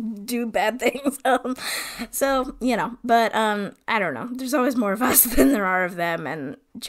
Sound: laughs

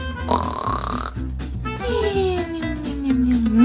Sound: snoring

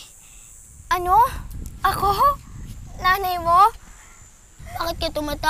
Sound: chuckles

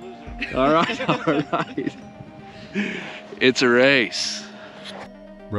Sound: laughter

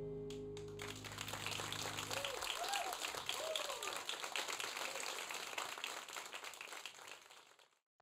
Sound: audience applause

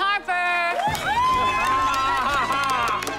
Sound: cheering, laughing

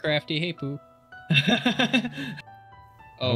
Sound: laughing

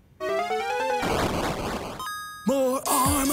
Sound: woman pops; armor chimes

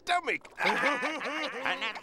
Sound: laughing

